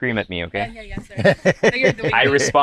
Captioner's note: laughs